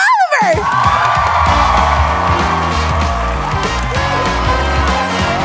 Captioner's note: cheering and applause